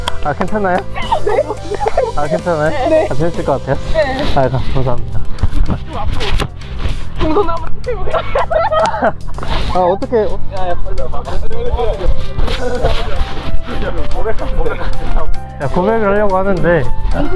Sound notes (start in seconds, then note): 7.2 Laughing